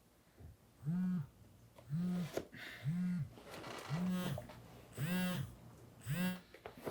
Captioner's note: phone buzzing